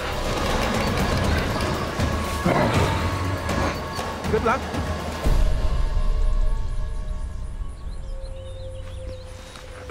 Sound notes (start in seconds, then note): 2.4 growls